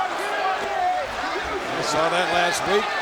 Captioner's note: crowd chattering